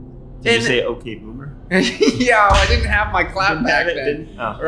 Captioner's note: chuckles